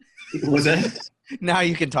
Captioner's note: laughs